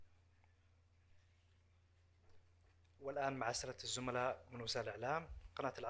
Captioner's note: in Arabic